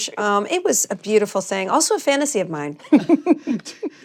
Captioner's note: others chuckle